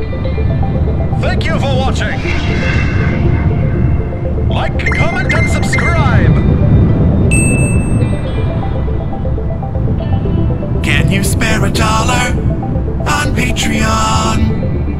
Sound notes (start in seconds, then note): 7.3 ding!